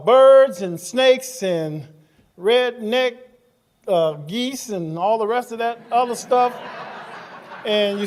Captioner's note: laughing